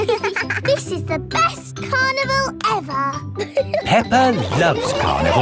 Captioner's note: both giggling